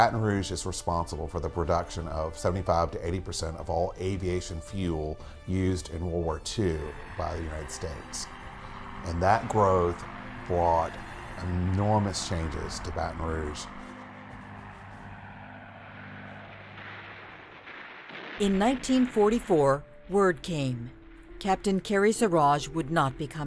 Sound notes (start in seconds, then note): 10.9 plane engines revving; 20.3 guns firing